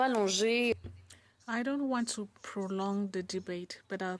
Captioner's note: speaking in French